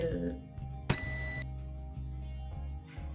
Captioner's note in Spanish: pitido fuerte